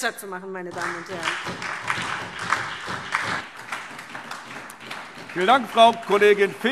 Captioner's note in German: Beifall SPD